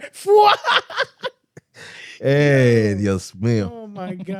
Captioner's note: laughing